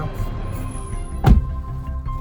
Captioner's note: door shuts; dramatic music